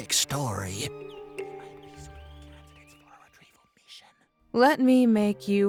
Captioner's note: whispering